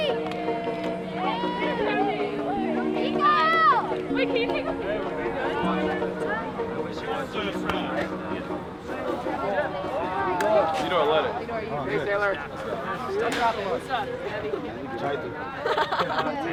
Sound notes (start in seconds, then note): 3.4 shouting; 15.6 laughs